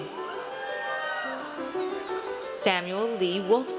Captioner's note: audience cheers